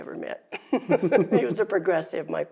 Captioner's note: both laugh